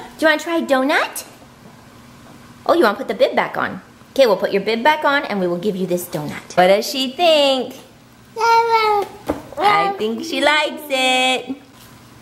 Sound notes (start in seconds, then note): 8.4 babbles